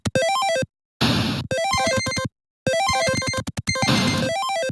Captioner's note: video game sounds